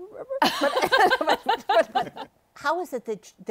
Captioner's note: laughter